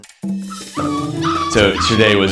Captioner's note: puppies whining